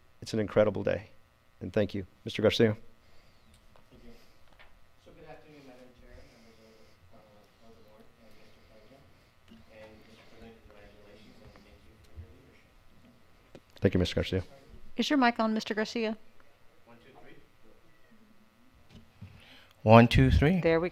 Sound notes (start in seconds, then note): 7.0 speaking faintly